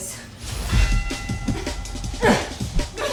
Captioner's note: fight bell rings